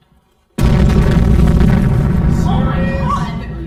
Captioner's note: elevator bangs